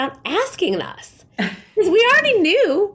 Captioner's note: laughs